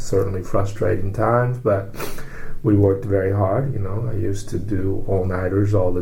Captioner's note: sniffs